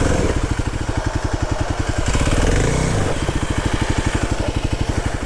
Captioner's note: bike wheels whirring